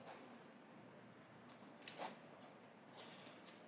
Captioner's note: none